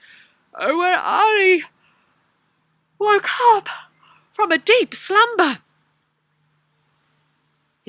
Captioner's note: yawns